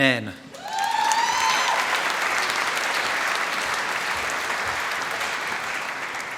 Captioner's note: applause